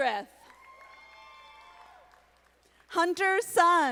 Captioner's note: audience applauding